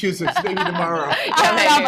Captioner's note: laughter